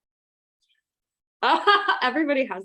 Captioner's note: laughs